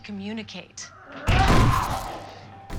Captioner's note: growling